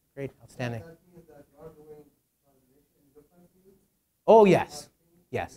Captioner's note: man speaking in background